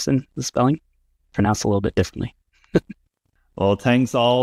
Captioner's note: laughs